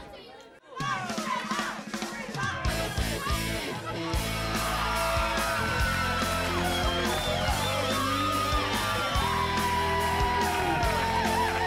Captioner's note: crowd cheering